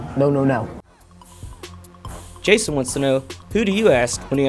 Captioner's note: voiceover